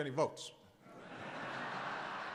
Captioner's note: laughter